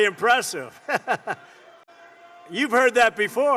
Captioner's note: laughter